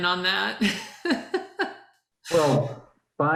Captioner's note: laughs